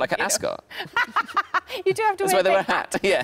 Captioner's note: Sarah laughing